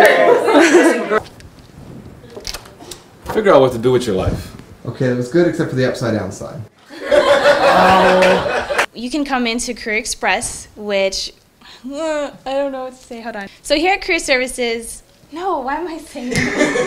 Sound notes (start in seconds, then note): 7.7 cheers and Applause